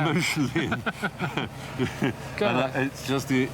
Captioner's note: Mark and Stephen laugh